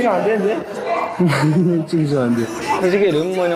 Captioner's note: giggles